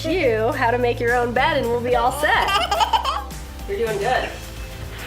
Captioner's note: little girl giggles